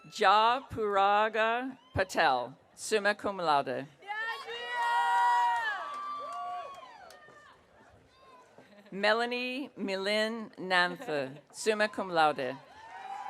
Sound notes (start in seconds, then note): 4.4 audience cheering; 12.7 audience cheering